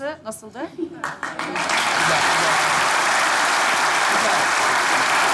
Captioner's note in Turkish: Alkış sesleri